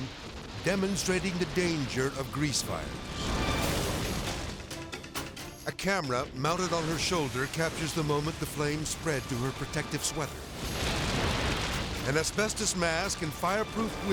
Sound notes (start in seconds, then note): 3.0 edgy dramatic music; 10.5 fire exploding